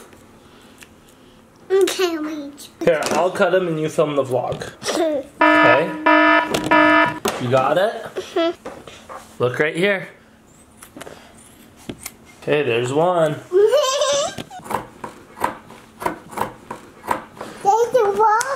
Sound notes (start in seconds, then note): 5.4 alarm; 13.8 laughs